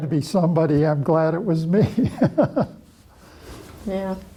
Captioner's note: laughs